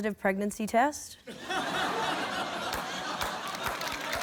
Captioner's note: laughter